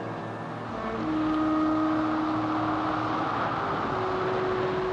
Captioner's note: howling wind